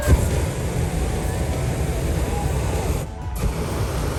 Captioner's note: burner noise